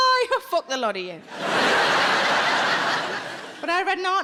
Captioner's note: audience laughing